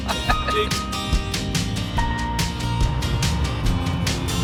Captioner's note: laughing